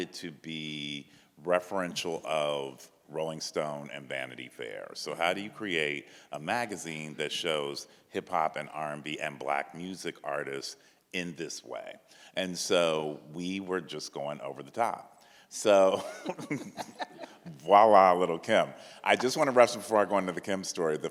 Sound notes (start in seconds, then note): 15.9 chuckle